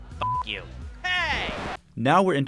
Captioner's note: record scratch